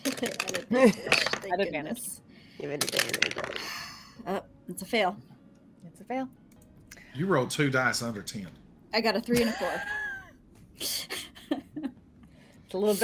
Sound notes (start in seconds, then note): 0.0 dice rattling; 2.9 speaks faintly; 9.3 group laughing